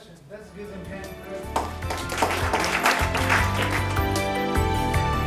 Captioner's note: audience applause; gentle music